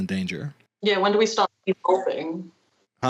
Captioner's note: call breaks up